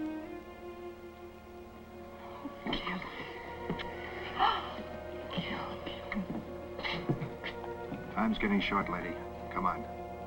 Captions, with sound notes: - Oh, Gil. (gasps) Gil, Gil. - Time's getting short, lady. Come on.